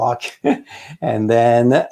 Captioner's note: laughs